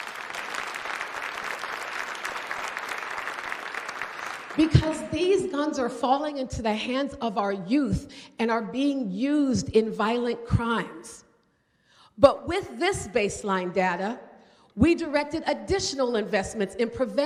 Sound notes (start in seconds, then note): 9.8 applause